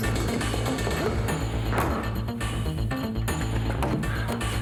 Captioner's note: John grunts